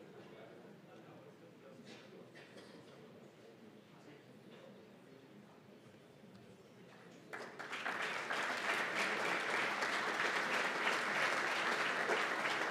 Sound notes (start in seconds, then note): 7.0 applause